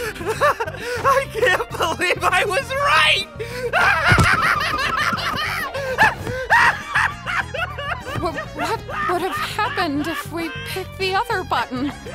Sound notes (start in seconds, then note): 3.4 laughing hysterically